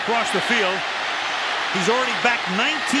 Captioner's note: cheering